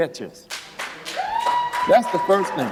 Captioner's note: applause